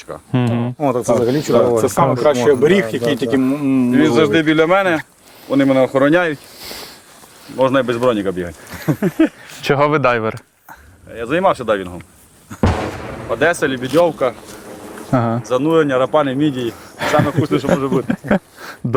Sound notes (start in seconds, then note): 8.6 laughs; 12.6 explosion sound